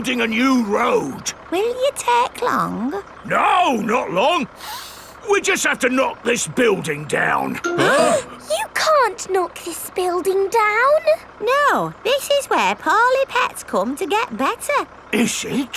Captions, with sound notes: We're building a new road. Will you take long? No, not long. (SNIFFS) We just have to knock this building down. (ALL GASPING) You can't knock this building down! No! This is where poorly pets come to get better!